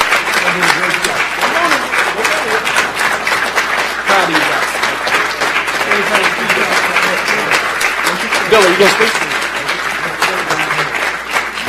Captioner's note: applause